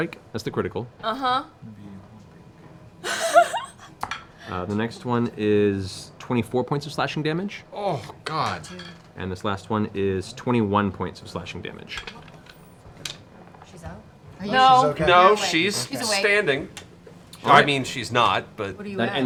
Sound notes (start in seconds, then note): 3.0 laughs